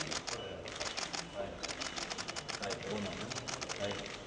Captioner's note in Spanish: ruido de flashes